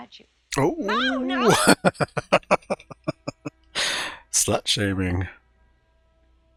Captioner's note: laughing